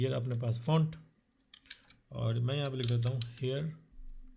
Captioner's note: typing